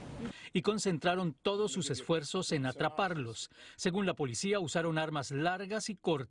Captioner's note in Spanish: habla en ingés